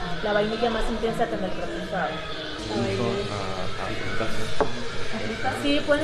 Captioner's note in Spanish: voces